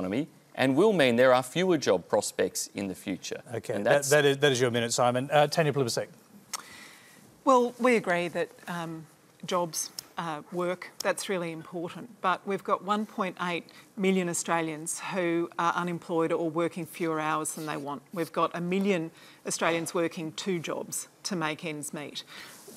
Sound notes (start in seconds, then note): none